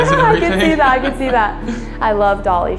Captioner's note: laughs